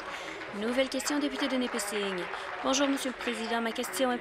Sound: applause

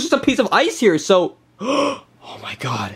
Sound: gasping

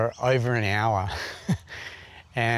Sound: laughs

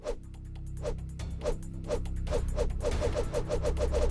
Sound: air whooshing

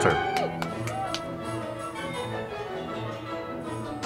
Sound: audience applauding

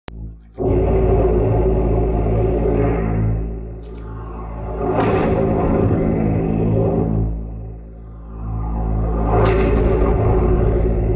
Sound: sound of alien fly attack

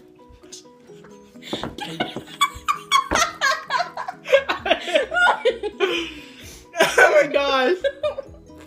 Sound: laughing

